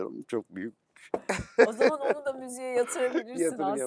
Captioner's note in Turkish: kahkaha